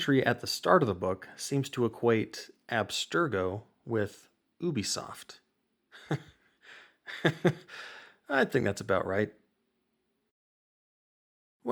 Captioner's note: derisve chuckle